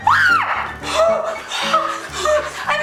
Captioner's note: screams